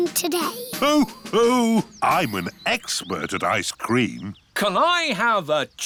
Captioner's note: laughs